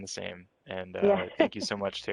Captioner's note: laughs